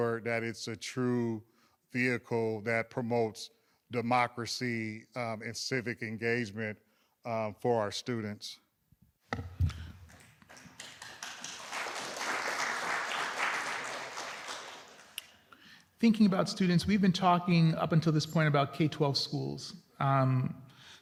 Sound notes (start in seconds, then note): 10.0 applause